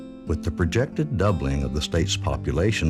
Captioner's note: voiceover